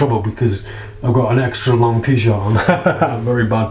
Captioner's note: laughs